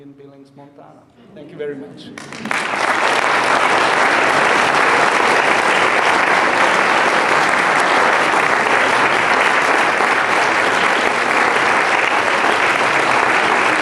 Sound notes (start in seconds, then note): 2.7 audience applauding